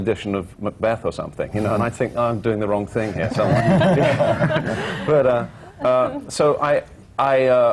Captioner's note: laughter